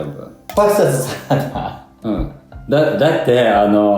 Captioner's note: laughs